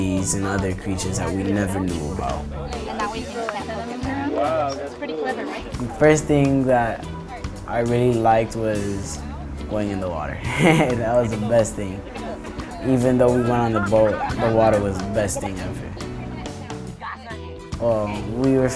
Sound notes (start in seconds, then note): 3.3 chatter; 10.2 laughs